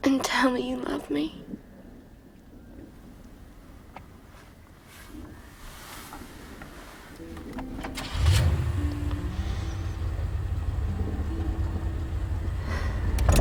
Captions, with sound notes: and tell me you love me. [Engine starts]